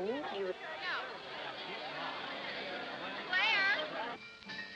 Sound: party noise

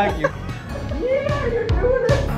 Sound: laughs

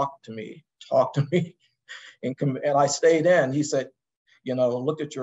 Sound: laugh

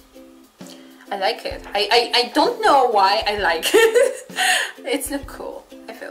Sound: laugh

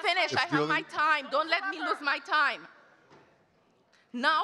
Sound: speaking faintly; faintly speaking

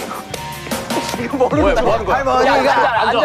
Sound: bang

